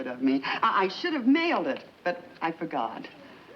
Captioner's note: none